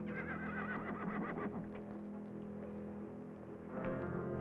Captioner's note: horse neighing